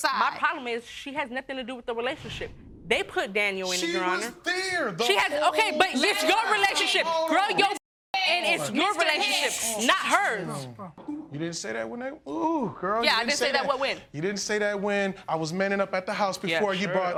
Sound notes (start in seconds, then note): 7.8 shushing